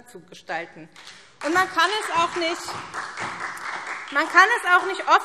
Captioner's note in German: Beifall SPD